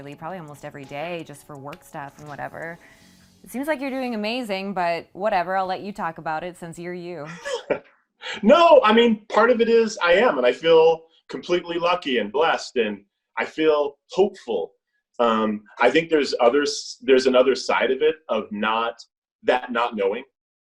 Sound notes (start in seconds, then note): 7.2 laughs